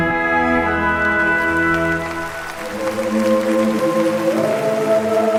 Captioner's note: audience clapping